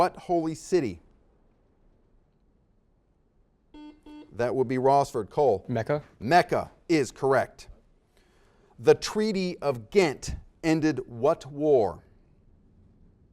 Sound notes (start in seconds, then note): 3.7 series of beeps